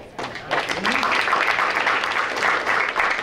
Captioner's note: applause